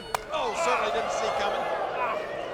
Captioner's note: hand slaps; audience groan